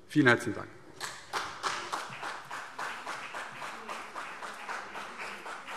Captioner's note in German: Beifall CDU und BÜNDNIS 90/DIE GRÜNEN